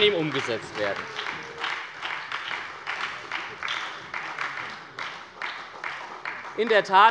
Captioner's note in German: Beifall bei der SPD